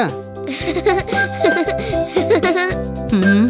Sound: bommi laughs

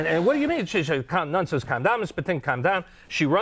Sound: speaks in foreign language

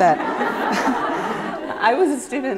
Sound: laughter

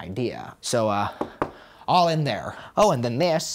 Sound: knocks on safe

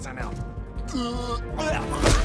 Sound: gagging

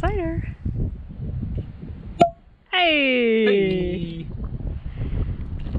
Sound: plop

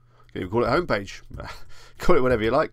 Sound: chuckles

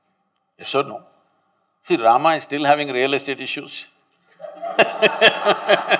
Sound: laughter/Applause

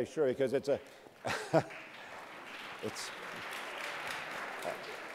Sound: audience clapping

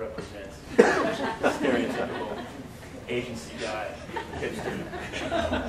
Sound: audience laugher

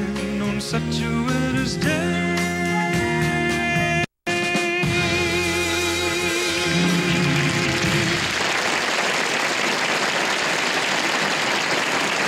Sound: applause

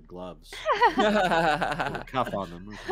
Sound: all laugh

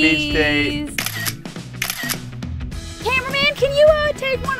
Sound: camera snapping

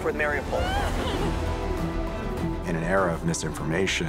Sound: crying

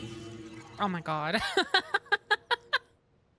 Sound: laughter

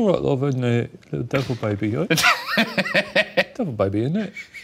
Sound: laughing

